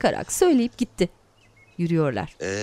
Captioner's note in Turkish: Kuş cıvıltısı sesi